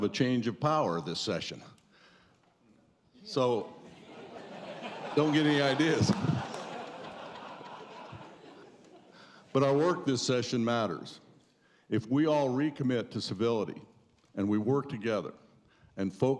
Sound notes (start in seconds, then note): 6.9 laughter